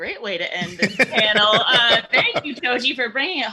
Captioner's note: laughing